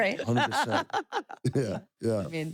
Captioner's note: laugh